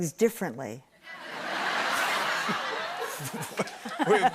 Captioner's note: laughter